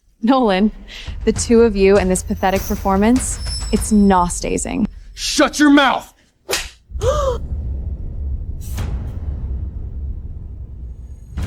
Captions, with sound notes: Molen, the two of you and this pathetic performance, it's nastazing. Shut your mouth! [GASP]